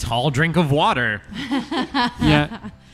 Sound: laughter

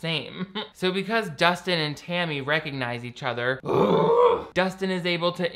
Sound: groans

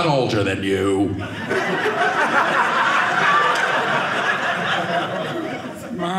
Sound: audience laughing

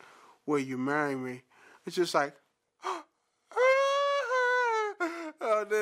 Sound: imitates crying; gasp

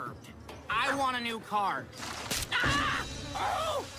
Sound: screams

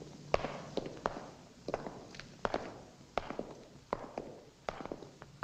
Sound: footsteps echoing

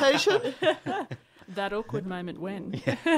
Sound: laughter; laughter

